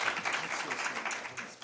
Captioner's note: speaking faintly